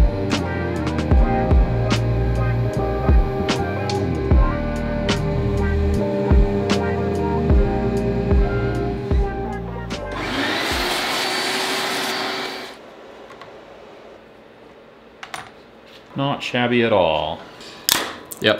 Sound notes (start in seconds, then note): 4.8 ambient music continues; 11.2 vacuum whirs